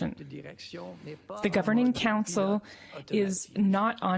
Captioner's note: speaking French